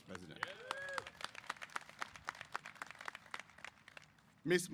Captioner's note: applause